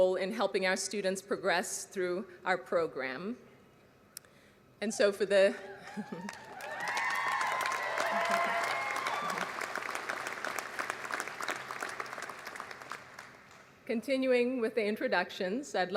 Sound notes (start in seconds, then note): 6.1 applause